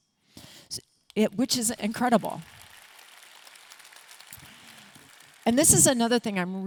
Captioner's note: audience clapping